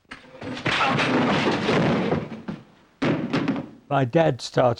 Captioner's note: crash